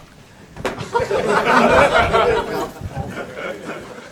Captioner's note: audience laughs